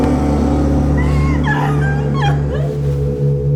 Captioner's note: sobbing